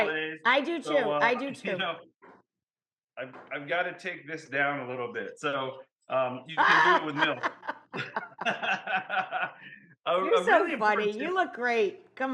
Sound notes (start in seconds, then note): 6.6 Rachael laughs; 8.4 both laughing